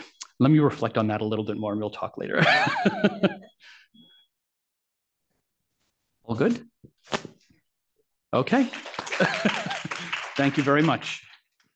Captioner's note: laughs